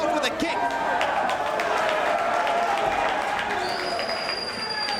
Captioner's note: spectators cheering